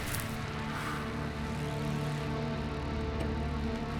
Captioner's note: exhales; tense music